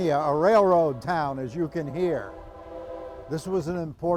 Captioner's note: train horn blasts